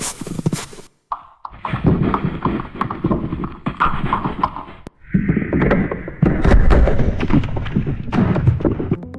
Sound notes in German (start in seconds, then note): 1.1 Gletschergeräusch